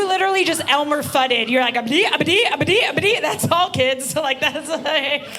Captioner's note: gibbering; laughing